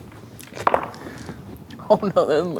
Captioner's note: dice rolling